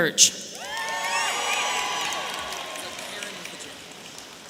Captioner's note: audience cheering